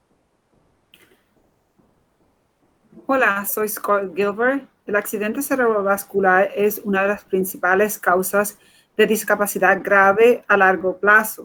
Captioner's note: speaking in Foreign Language